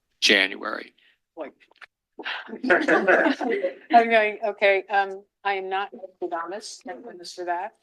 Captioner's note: laugh